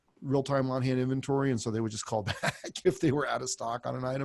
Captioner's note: laughs